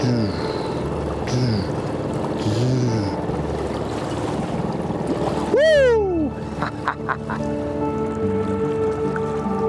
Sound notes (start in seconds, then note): 6.6 chuckles; 9.4 calming music continues